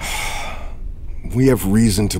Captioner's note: sighing